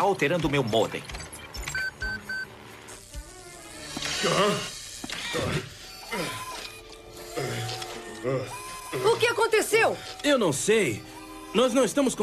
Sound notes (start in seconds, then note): 2.9 beeping; 7.0 straining